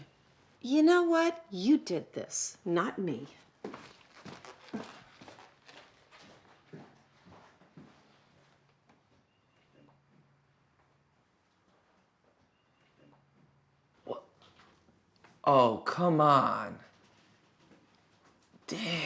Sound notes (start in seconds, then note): 3.4 footsteps crunching